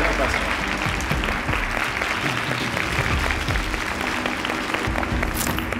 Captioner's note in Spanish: Aplausos